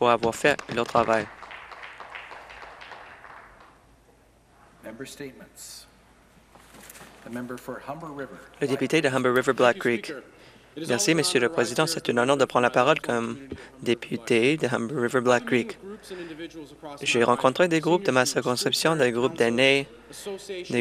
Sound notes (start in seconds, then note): 3.3 some Applause